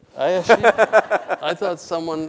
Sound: laughs

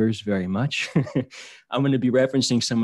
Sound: laughter

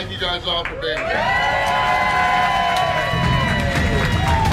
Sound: cheering

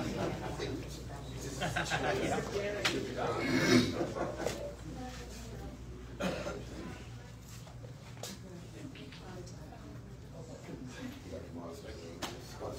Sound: audience laughs; indistinct chatter

